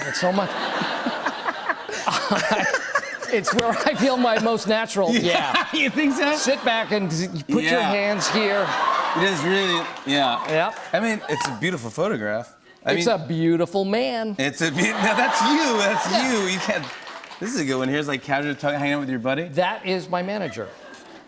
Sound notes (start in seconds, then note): 0.4 laughter; 8.1 laughter; 14.8 laughter and applause